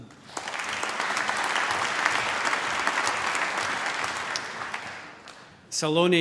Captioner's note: applause